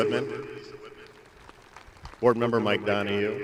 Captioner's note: audience applauding